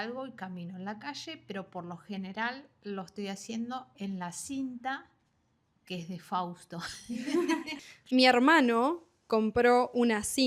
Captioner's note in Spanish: risas